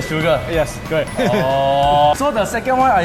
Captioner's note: awkward Laughter